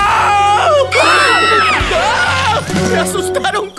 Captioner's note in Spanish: Sonido Gritos